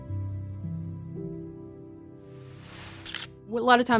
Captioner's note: camera shutter clicks